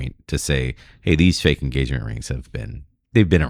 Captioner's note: uh